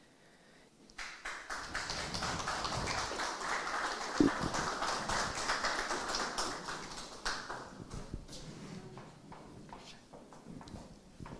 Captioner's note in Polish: oklaski